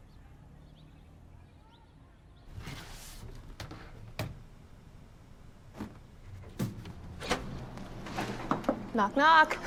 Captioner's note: birds chirping